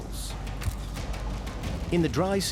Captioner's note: camera shutter clicks